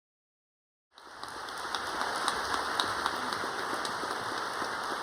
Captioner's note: audience applauding